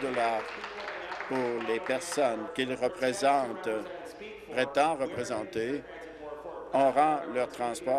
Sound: applause

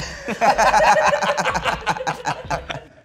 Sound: all laughing

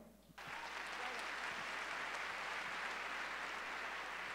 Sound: audience cheering

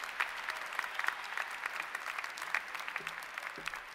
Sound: applause

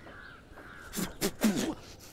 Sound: spits

